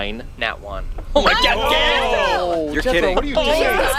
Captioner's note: scoffs